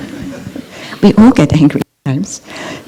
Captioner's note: laughter